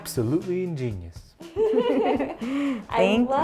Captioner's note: laugh